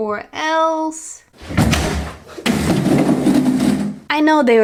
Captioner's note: crAsH!